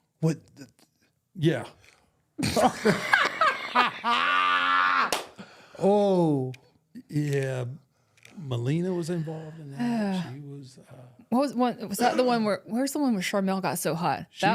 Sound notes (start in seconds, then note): 0.7 stammers; 2.4 both laughing